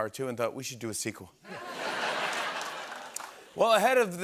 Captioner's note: laughter and applause